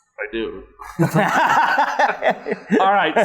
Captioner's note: both laughing